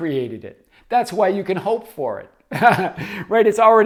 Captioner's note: laughs